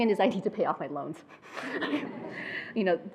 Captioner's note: attendees laughing